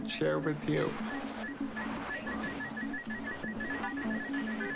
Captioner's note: clicking sounds, speeding up